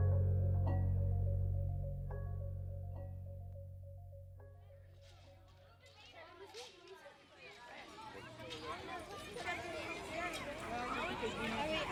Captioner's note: kids chattering in the background